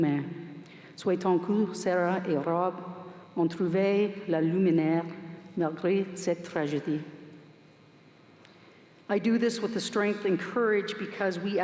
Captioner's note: speaking french